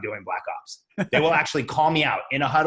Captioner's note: laughs